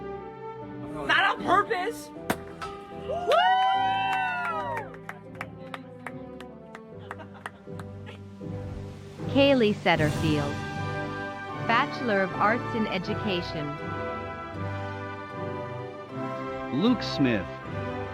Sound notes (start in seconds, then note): 2.2 bottle popping; 3.3 yelling